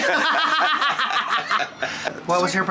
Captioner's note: friends laughing